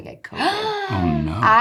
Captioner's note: Natalie gasping